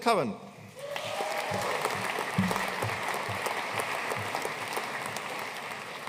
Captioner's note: audience cheering and applauding